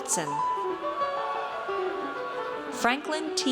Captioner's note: audience cheers